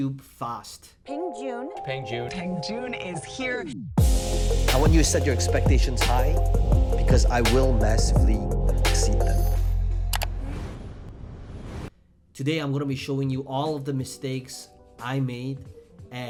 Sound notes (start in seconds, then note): 3.9 electronic music; 10.1 mouse clicking